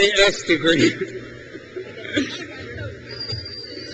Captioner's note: crowd cheers